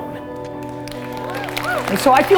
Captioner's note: applause